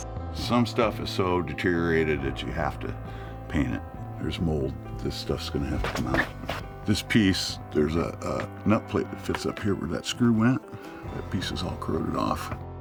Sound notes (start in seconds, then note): 4.6 scratching sound